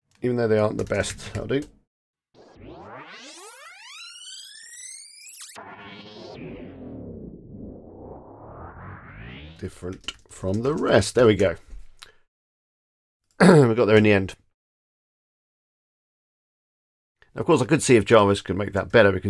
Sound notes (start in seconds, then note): 2.3 record rewinding and playing